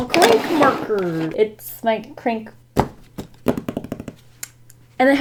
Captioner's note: fingers tapping